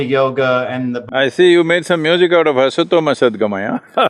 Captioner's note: laughs